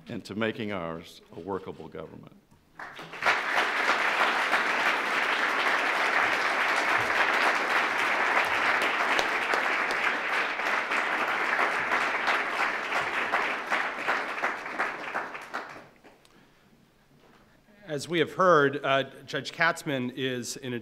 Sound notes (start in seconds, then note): 3.5 applause